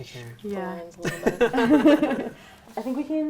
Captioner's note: laughter